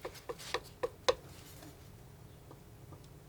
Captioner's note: tapping on paper